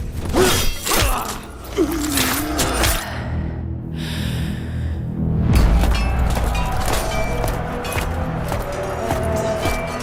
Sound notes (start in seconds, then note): 1.6 shuddering groan; 5.3 crowd roars